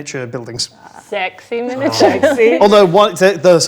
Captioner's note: overlapping chattering